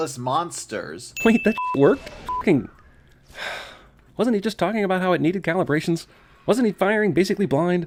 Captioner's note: sigh